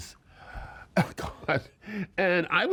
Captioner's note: laughing